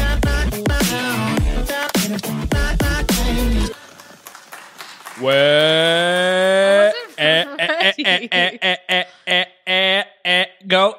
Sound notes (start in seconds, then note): 8.0 laughs; 9.6 laughs